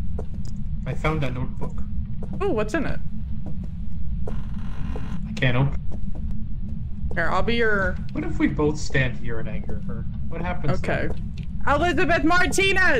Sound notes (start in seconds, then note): none